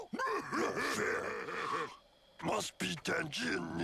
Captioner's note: laughing